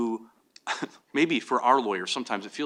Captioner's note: chuckles